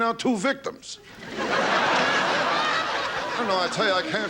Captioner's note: laughing